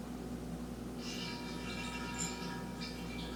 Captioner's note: sucking sound as the carboy runs dry